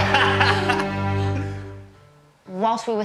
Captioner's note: laughs